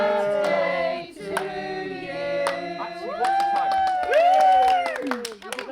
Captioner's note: whooping